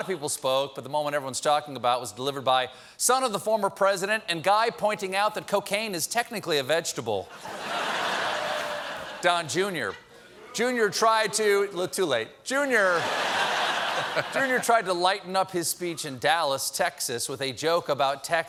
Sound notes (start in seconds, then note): 0.2 laughter; 12.9 laughter